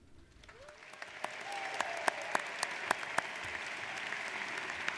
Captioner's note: audience applauds